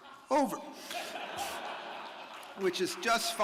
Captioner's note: audience laughing